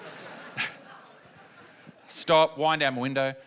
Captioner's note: laughter